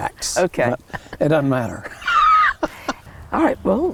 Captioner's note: laughter